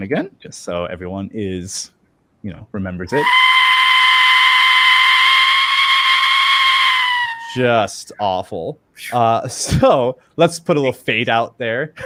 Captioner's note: death whistle screeching